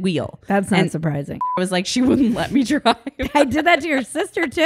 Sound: beep

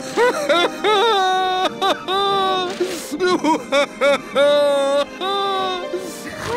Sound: crying

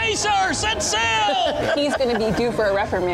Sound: laughing

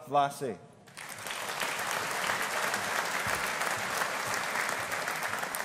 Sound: audience applauding

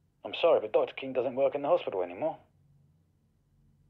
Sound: none

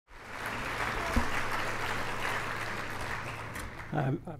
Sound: audience clapping

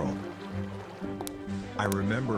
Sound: footsteps on tile

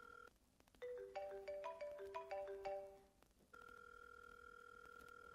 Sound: phone ringing; second phone ringing

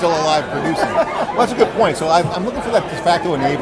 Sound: laughs

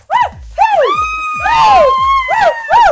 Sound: cheers; scream; cheers

